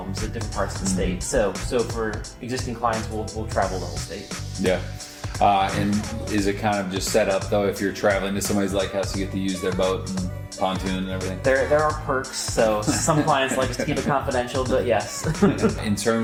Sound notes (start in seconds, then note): 12.6 laughs; 14.9 both laugh